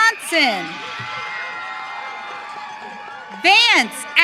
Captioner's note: audience cheering